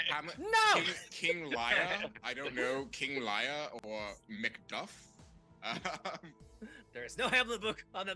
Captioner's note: laughing